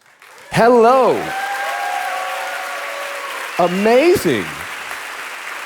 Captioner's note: audience applauding